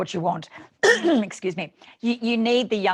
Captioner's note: clears throat